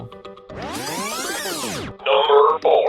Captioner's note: tape rewinding